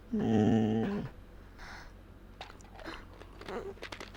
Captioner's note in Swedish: hund som gnäller